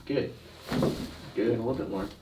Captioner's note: thump